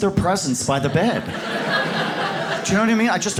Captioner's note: audience laughs